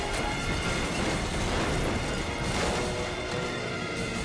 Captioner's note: race car crashing